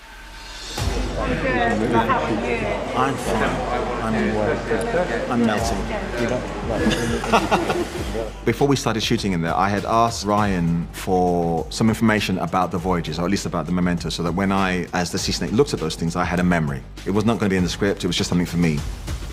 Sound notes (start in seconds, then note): 6.8 laughter